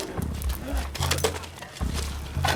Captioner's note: chatter, coughing